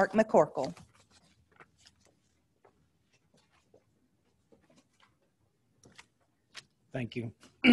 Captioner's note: silence